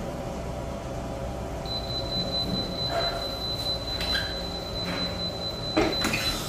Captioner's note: beeping noise; press machine noise